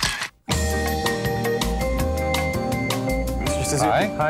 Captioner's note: camera clicks